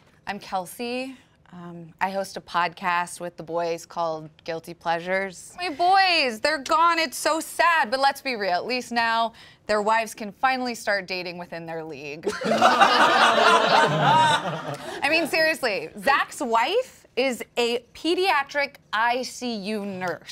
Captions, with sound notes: - I'm Kelsey. I host a podcast with the boys called "Guilty Pleasures." My boys! They're gone, it's so sad. But let's be real, at least now their wives can finally start dating within their league. (all laughing) I mean, seriously, Zach's wife is a pediatric ICU nurse.